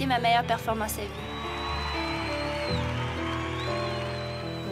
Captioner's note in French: acclamations